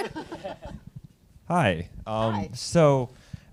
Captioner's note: panelists laughing